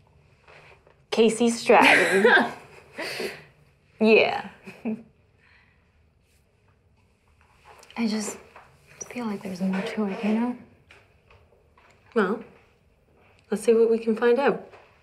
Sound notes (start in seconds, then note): 1.8 laugh